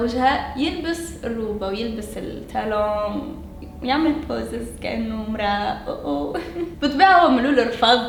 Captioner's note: chuckles